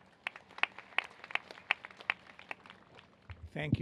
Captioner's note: applause